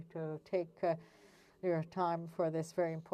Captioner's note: speaking French